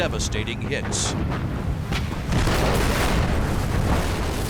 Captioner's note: explosion